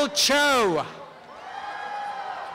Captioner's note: applause and cheering